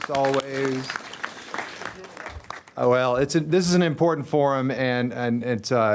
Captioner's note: applause